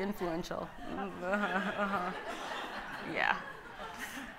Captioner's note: audience laughing